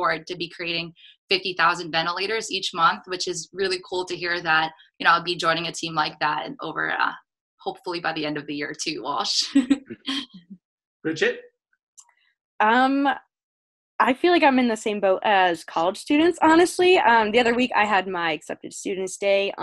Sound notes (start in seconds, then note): 11.1 laughs